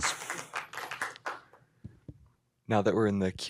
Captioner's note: applause